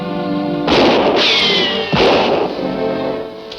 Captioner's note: gun shots